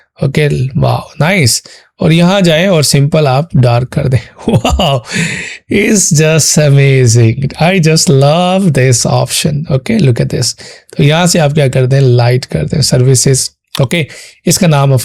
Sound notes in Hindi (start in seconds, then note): 4.3 हंसी; 5.0 अचानक ज़ोर से सांस लेने की आवाज़